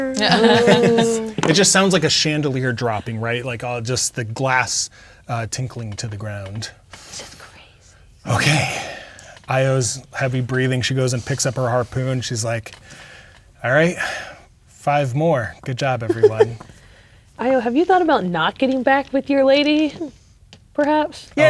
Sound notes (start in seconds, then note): 0.0 all laughing; 7.2 whispers; 16.0 laughing